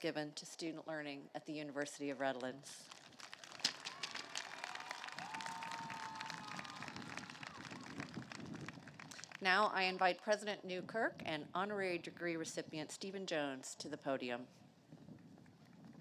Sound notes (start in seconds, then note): 7.3 applause